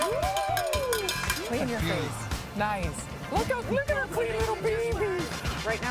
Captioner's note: cheering